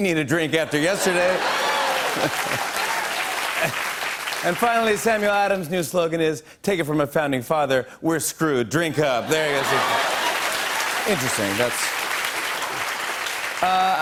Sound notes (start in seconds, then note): 0.6 laughter and applause; 9.3 laughter, cheers, applause